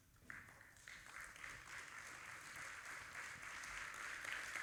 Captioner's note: audience applauding